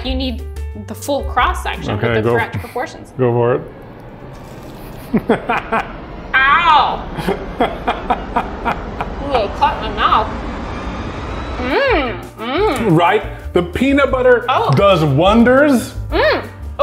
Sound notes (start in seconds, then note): 4.0 ominous music; 4.8 laughing